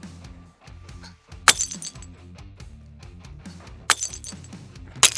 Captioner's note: clay shatters